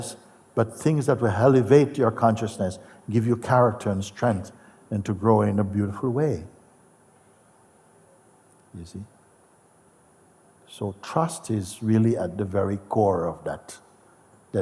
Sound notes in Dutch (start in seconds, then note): none